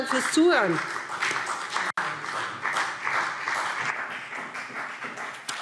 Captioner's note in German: Beifall BÜNDNIS 90/DIE GRÜNEN und vereinzelt CDU